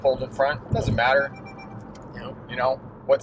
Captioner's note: notification chiming